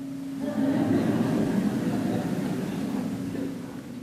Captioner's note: audience laughs